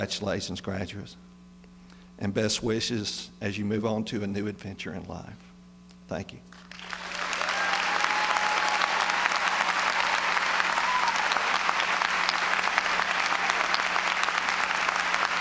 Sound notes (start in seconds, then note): 7.3 applause; 8.0 applause and cheering